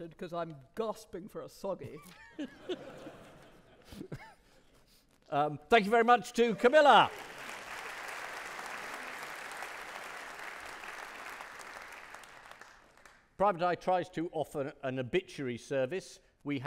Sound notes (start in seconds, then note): 2.3 audience laughing; 6.6 audience clapping